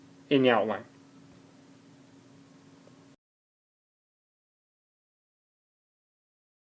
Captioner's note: video continues but there is no audio